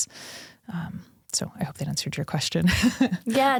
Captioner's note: chuckles